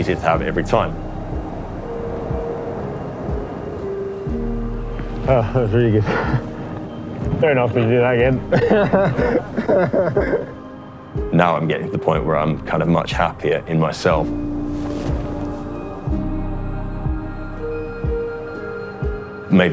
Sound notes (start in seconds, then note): 2.8 optimistic, simple notes; 4.9 laughs; 15.3 optimistic, simple notes